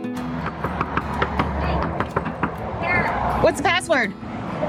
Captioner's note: knocking